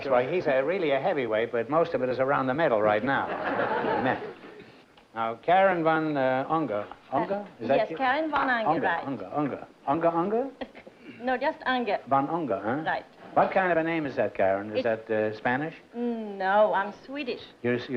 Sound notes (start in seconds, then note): 3.2 laughter